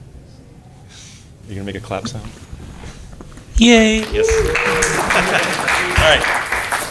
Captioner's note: applause